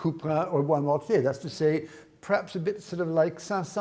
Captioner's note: speaks in foreign language